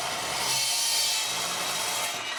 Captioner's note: drill whirring